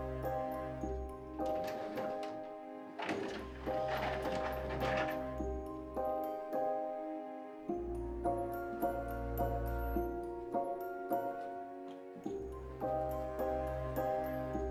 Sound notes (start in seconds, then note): 1.6 doors rattling; 11.0 mysterious music continues